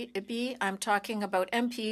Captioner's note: speaking French